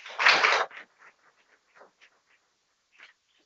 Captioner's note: people clapping